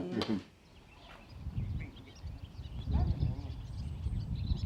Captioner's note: birds chirping